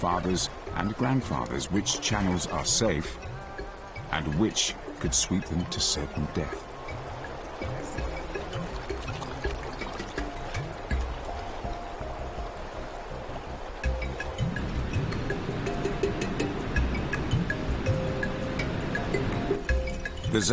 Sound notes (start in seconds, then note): 2.9 peaceful music; 2.9 water rushing